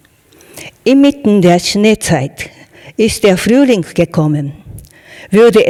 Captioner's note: speaking in German